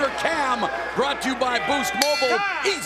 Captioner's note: bell rings